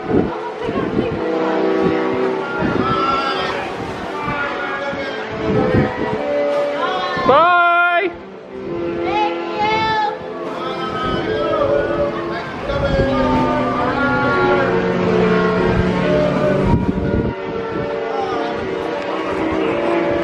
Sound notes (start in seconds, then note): 1.0 horn continues blasting; 3.8 guests shouting farewells; 12.6 guests shouting farewells; 12.6 horn blasting tunefully